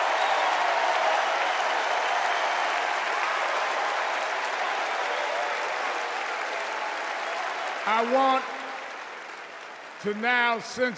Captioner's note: cheers and applause